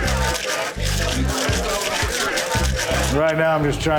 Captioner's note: ice rattling